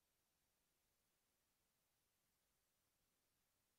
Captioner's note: none